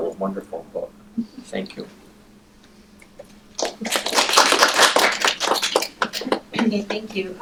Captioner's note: applause